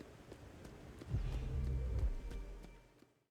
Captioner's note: portal Noises